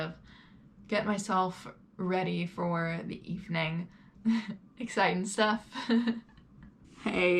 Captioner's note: giggles